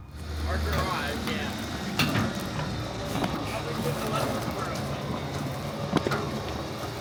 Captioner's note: machine whirring